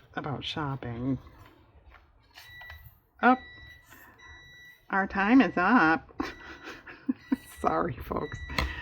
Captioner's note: electronic beeping sound